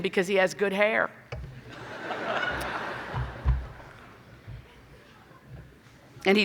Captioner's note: laughing